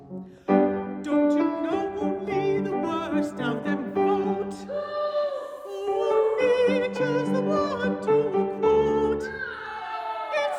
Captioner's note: boo, Hiss; boo! Hiss!